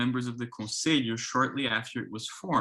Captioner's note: speaks foreign language